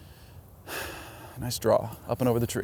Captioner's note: sighs